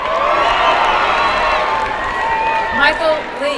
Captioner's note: applause and cheering